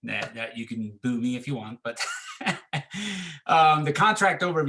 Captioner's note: laughs